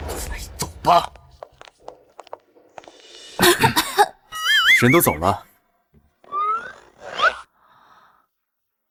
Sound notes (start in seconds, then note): 3.4 cough, cough